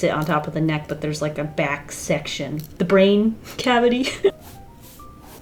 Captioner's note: laughs